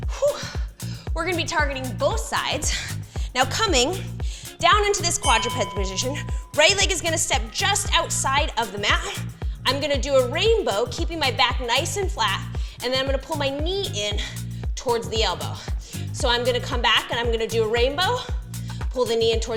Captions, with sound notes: We're gonna be targeting both sides. Now coming down into this quadruped position, (bell chimes) right leg is gonna step just outside of the mat. I'm gonna do a rainbow, keeping my back nice and flat, and then I'm gonna pull my knee in towards the elbow. So, I'm gonna come back and I'm gonna do a rainbow,